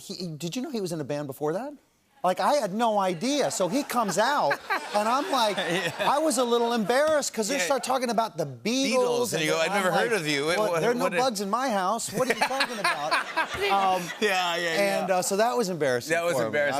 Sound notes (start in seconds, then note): 12.1 laughter